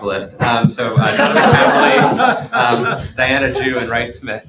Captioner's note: laughter